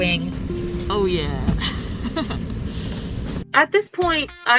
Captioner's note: nervous chuckle